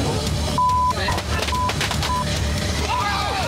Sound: beep

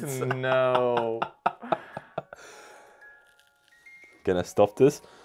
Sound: starts laughing

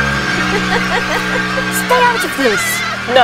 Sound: dramatic tense music; Bellatrix laughing

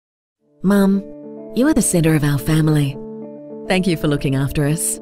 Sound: Голос за кадром

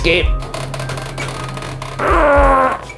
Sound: coffin creaking; grunting

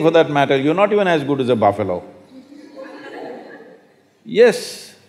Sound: laughter

